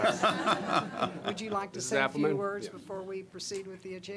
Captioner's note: laughter